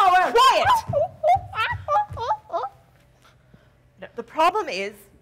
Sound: Sharik softly whimpering

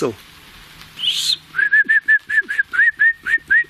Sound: whistling

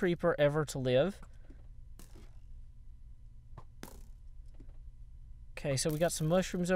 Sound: arrows whizzing and thunking into the wall

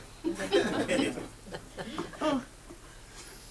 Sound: audience laughs

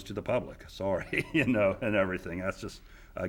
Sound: chuckling

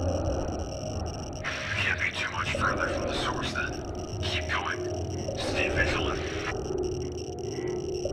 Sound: over Radio

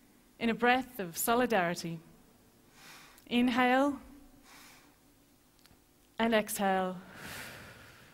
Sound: breaths audibly

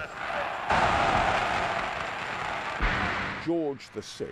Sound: crowd cheering

